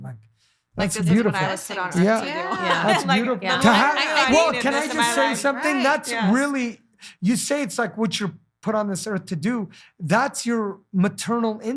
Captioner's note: laughing